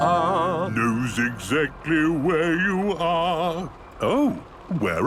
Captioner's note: mimicking tune